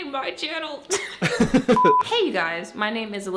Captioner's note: laughs